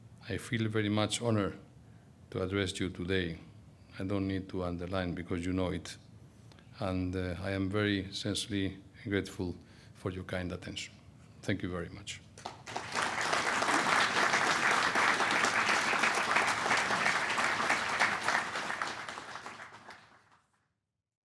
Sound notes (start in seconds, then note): 12.4 applause